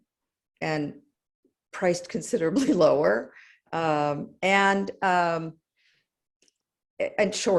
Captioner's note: laugh